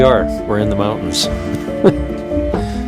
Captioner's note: laughs; gentle music